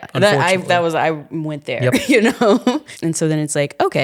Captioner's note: chuckling